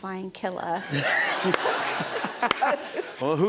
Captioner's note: laughter